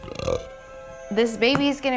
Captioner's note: burp